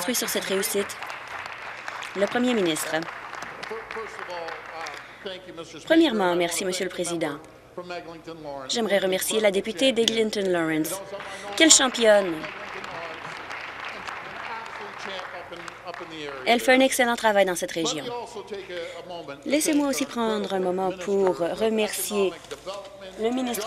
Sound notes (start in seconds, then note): 1.6 applause; 17.1 applause